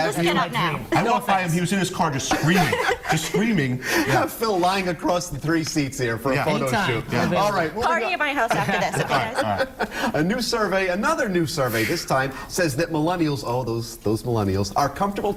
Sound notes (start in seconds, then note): 2.2 laughter; 8.3 laughter